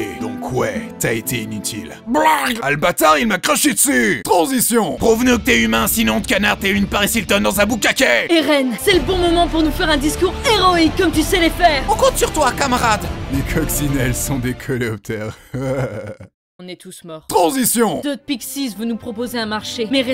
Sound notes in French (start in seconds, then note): 1.9 crache du sang; 4.9 Kitts *Voix menaçante; 15.1 gloussements